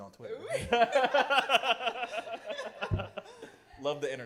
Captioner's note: laughter